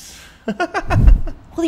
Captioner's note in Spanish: Risa de fantasma malévola